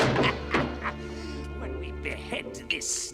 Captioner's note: hissing and cackling; door slams shut; cackling